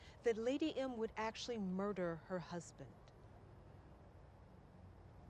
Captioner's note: none